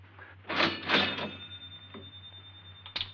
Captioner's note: register dinging